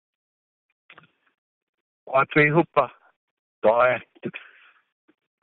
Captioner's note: speaking in native tongue 00:11:17